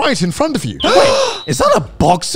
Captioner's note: gasping